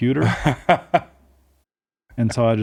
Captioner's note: laughing